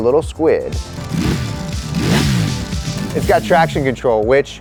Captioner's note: engine revs